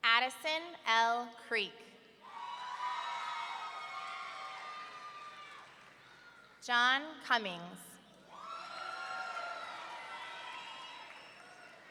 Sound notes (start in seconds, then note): 2.3 audience cheering; 8.4 audience cheering